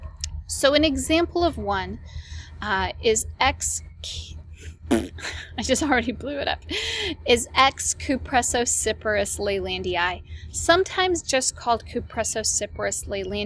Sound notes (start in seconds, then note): 4.6 raspberry